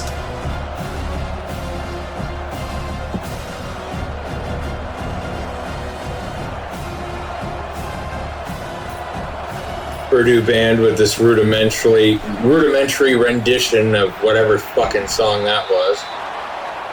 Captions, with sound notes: [Crowd Noises] Purdue band with this rudimentary rendition of whatever fucking song that was.